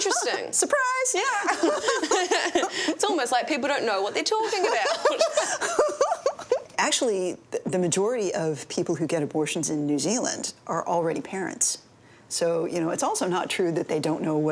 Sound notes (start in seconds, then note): 1.4 both laughing; 4.7 both laughing